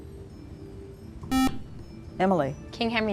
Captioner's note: buzzer